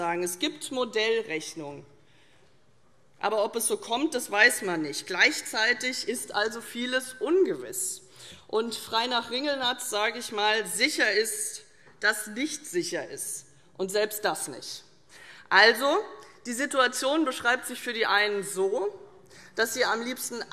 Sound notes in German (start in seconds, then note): none